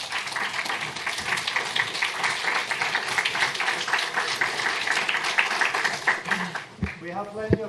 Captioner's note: applause